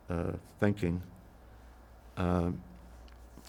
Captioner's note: pauses 6 seconds